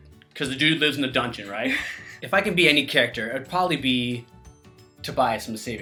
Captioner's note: snorts; chuckles